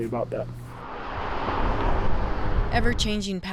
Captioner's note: car engine revving